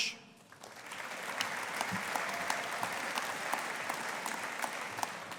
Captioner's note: audience applauding